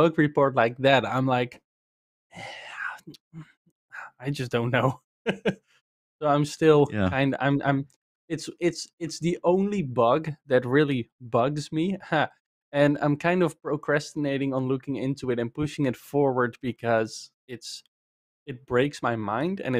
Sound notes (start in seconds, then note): 2.4 sighs; 5.3 laughs